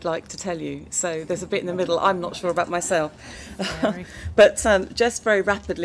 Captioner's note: laughter